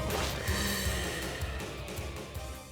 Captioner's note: deep breath